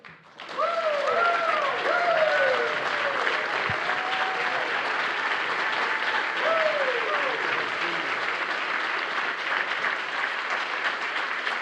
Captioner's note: applause